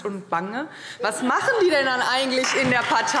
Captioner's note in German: Heiterkeit und Beifall Freie Demokraten, SPD und DIE LINKE